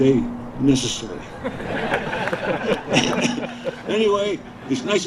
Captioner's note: audience laughing